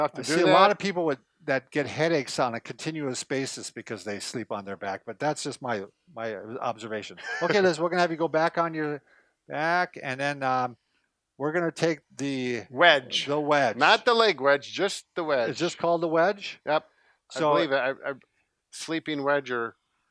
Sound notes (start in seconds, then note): 7.1 laughs